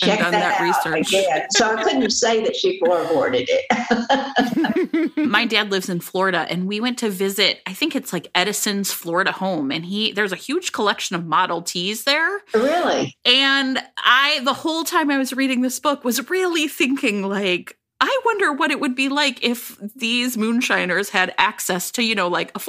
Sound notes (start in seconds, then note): 3.9 laughter